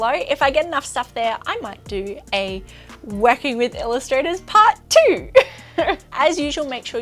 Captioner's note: chuckles